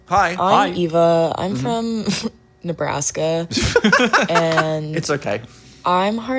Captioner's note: chuckles